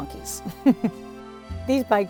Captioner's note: chuckles